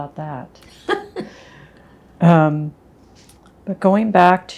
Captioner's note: laughing